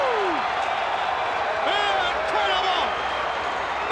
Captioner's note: crowd cheering